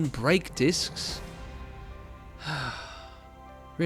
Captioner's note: sigh